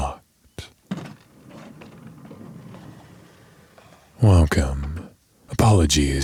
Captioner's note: door opens